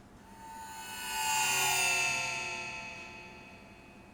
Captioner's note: stressful whoosh